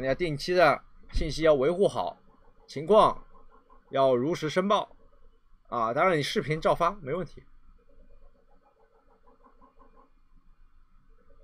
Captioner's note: dog